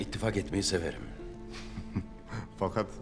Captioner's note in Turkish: Vasilius gülme sesi